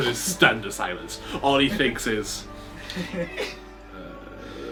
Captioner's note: laughs